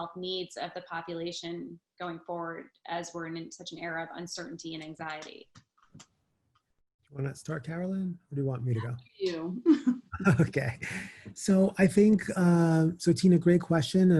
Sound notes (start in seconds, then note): 10.1 laughter